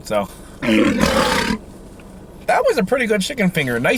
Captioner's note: tiger growling